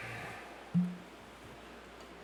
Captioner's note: exhaling; opening Bottle